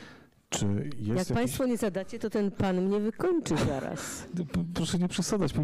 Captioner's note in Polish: śmiech